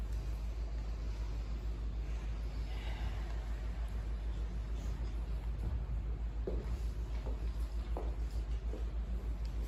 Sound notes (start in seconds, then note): 0.3 inhale; 3.7 exhale